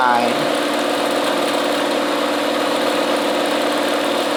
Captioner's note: machine whirring